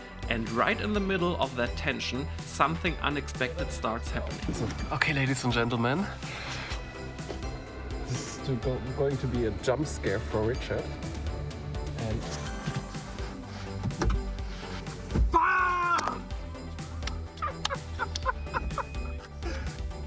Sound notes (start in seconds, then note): 11.9 upbeat music; 15.3 screams; 17.2 laughing